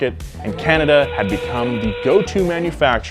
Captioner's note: horn blares